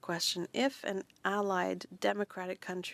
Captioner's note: speaking French